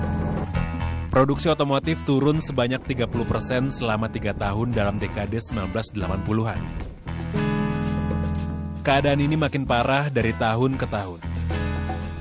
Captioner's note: non-english speech